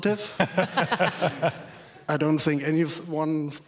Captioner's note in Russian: смех